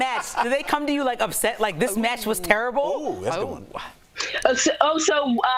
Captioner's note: laughter